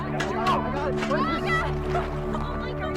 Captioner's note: laughs